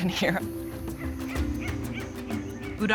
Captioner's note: monkey sounds in distance